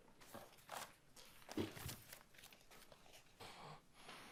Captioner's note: paper rustling